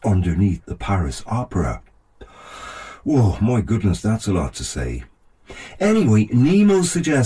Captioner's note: takes a deep breath